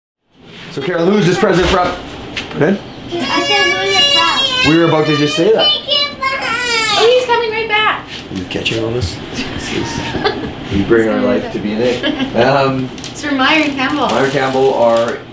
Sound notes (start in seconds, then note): 6.0 crying; 9.1 laughs